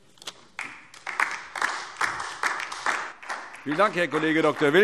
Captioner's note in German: Beifall DIE LINKE